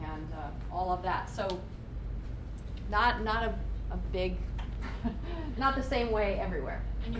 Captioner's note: laughs